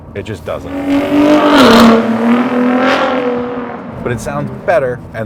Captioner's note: car engine revving